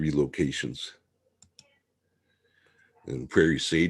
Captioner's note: mouse clicking